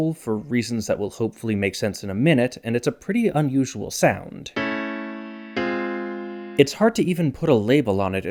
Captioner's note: bang